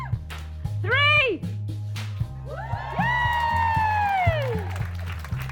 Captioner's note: applause